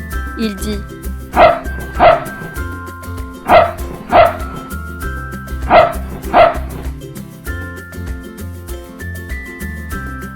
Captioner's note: the dog barks